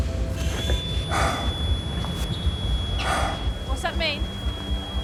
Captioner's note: continuous beep